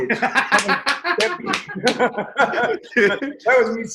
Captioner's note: both laugh